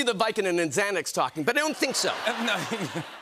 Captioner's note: laughter